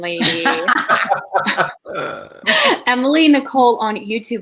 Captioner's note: all laugh